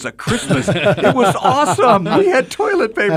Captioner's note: laughter